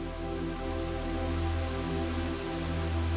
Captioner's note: rush of water